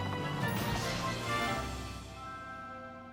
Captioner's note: whoosh